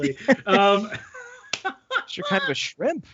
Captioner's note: all laughing